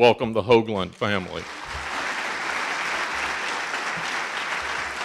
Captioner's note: audience applauding